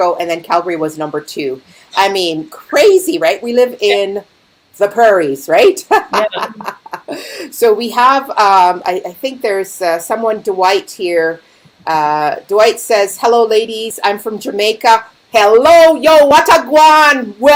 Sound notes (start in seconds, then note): 5.8 laughing